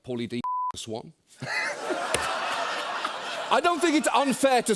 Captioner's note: laughter